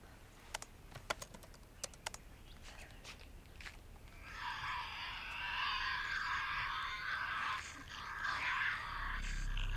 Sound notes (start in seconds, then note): 4.2 Tasmanian devil shrieking